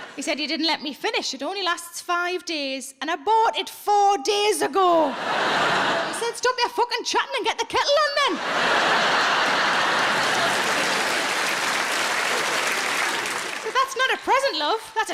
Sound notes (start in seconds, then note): 5.0 audience laughs; 8.3 audience laughs and applauds